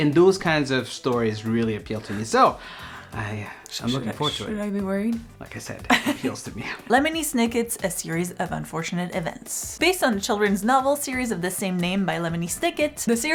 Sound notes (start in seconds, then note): 5.9 Sandrine laughs